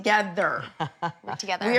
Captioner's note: chuckles